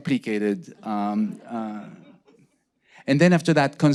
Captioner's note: audience laughing